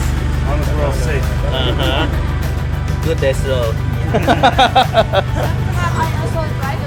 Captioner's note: laughter